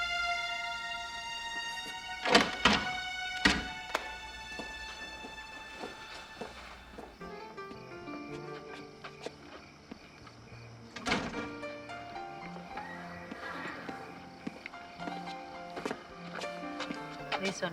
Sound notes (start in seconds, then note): 2.4 lock clattering; 7.9 mellow jazzy music